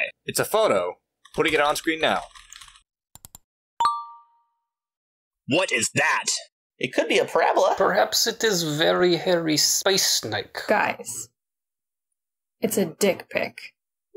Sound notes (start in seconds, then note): 1.2 typing; 3.2 mouse clicks; 3.8 computer chime